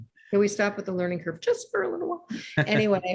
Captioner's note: laughs